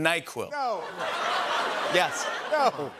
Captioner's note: laughter